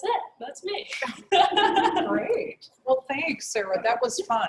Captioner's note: laugh